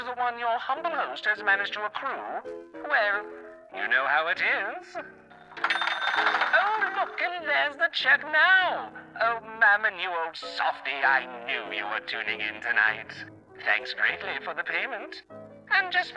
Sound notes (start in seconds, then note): 5.5 echoed sound of a cash register